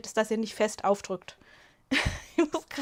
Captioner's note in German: Gelächter